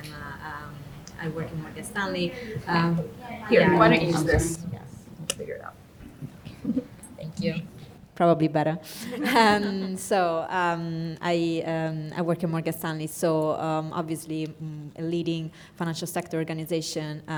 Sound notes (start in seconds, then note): 9.0 group laughing